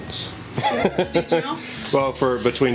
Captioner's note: laughing